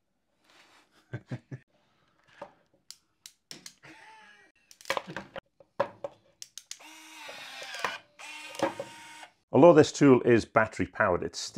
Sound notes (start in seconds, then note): 1.2 laughs; 7.1 crimping tool whirs